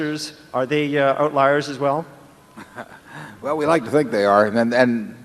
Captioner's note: laughter